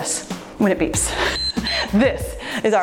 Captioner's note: timer beeps